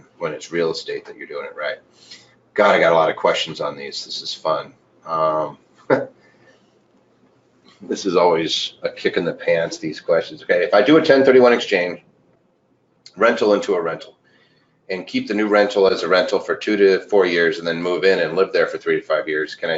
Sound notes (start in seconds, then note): 5.8 chuckles